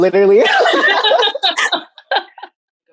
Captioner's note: group laughing